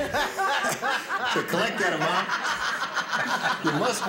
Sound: all laugh

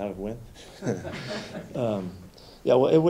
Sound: light laughter

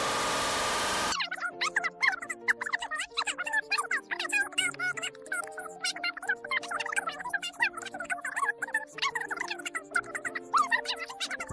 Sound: fast talking

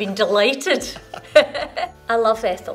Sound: laughter

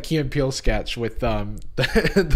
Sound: laughs

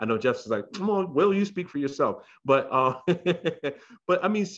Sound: laughs

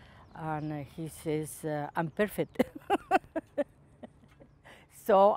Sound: laughs

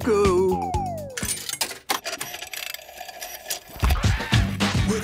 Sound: clicks, whirring; hip hop music plays

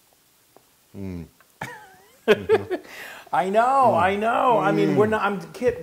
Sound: laugh

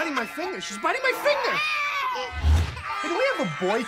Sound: kids crying

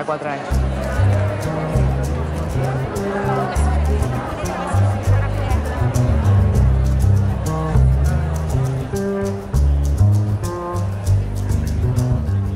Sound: people chattering

